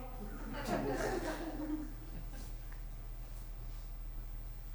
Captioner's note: audience laughs